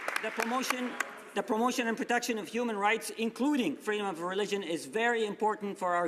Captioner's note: some Applause